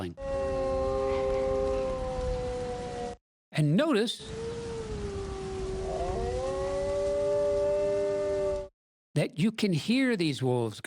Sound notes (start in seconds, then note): 0.1 wolf howl; 4.3 wolf howl